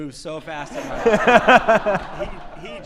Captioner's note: all laughing